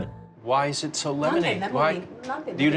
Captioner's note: speaking Japanese